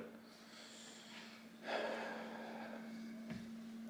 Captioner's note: man sighs